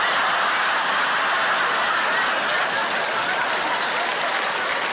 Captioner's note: audience laughing and applauding